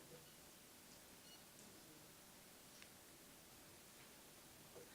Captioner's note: board member faintly speaking